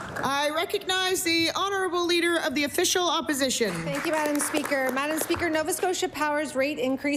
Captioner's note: applause